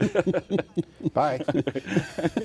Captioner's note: laughing